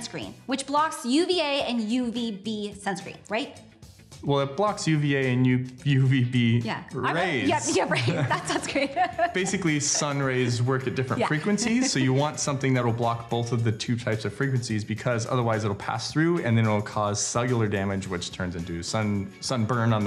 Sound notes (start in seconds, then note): 7.4 laughing